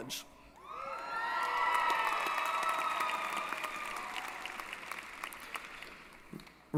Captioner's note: applause & Cheering